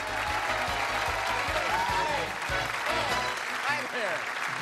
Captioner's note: cheers and applause